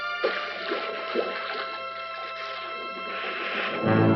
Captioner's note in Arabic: رشات الماء